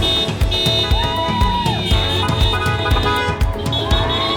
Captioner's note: crowd cheering; horns honking